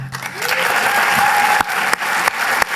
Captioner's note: applause